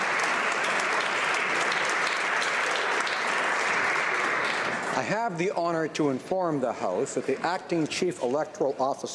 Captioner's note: some Applause